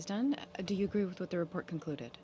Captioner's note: speaking French